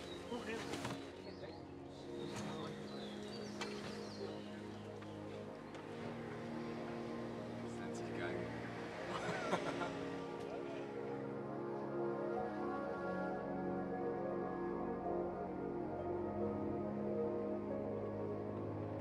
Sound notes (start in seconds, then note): 7.3 driving noise